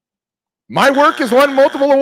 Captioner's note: buzzer beeps